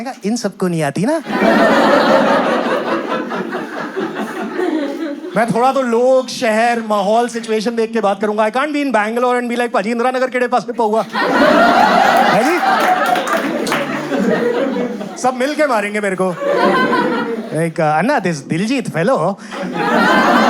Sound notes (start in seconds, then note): 18.5 in a Bangalore accent